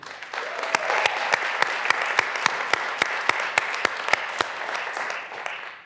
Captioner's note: graduands cheering and applauding